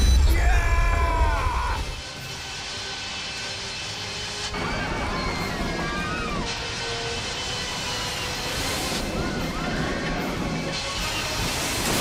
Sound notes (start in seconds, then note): 4.5 screaming